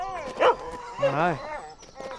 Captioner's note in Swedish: skäller